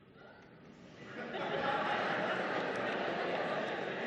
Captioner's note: audience laughing